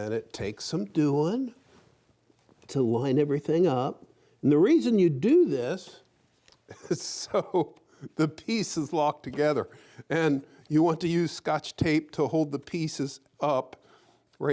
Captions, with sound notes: and it takes some doin' to line everything up. And the reason you do this, is so (chuckling) the pieces lock together, and you want to use scotch tape to hold the pieces up.